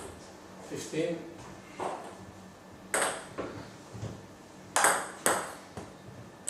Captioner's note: balls ping pong hitting continues